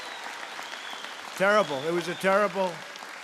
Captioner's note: applause